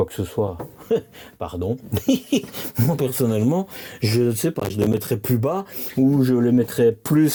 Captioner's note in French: rires